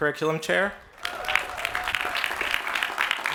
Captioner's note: applause